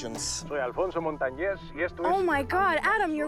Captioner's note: man speaking Spanish on TV